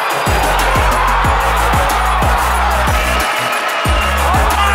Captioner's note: crowd cheers